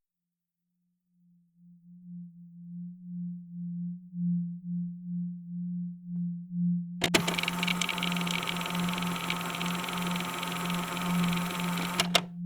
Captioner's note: tape recorder static and music begins